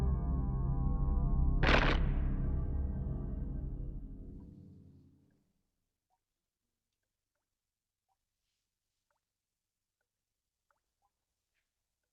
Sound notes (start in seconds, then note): 1.6 stone crunching